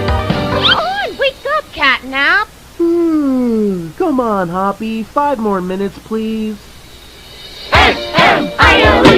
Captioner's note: CatNap yawns